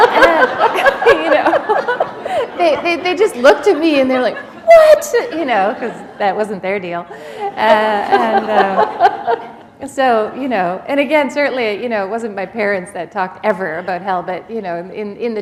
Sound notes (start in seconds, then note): 9.7 laughter